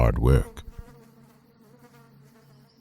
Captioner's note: bee buzzing